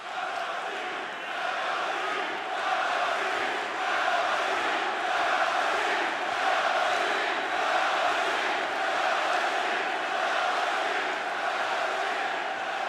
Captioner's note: crowd cheering